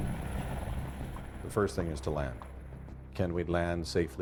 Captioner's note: voiceover